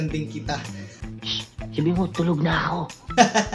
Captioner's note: psst